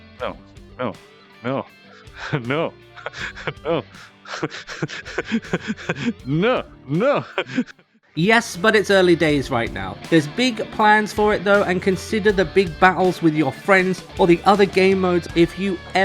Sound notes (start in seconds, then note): 1.4 laughs; 5.5 lots of lols